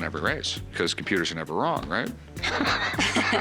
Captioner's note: laughs